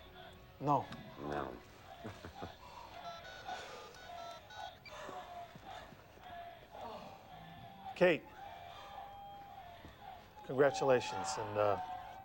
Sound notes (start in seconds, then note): 3.0 dialing cell phone